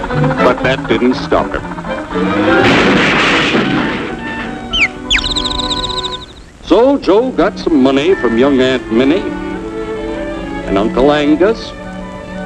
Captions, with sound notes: But that didn't stop him. [CAR CRASHING] [BIRD CHIRRUP] So, Joe got some money from young Aunt Minnie. And Uncle Angus.